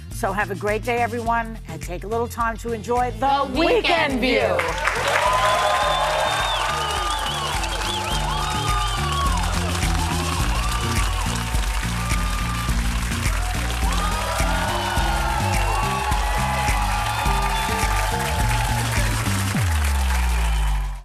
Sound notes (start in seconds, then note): 5.4 audience cheering; 7.5 cheers and applause; 12.5 cheers and applause; 17.4 audience cheering